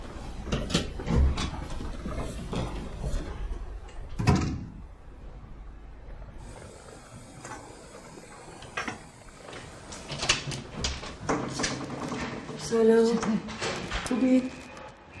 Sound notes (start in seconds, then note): 0.5 door opening; 4.1 door closing; 9.7 door opening